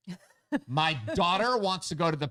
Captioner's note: laughs